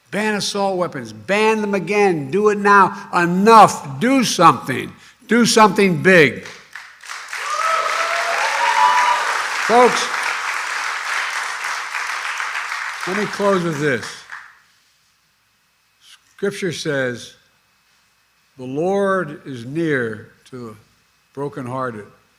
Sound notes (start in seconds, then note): 6.4 applause